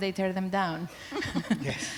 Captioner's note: laughter